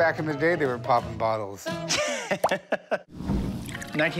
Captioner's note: laughs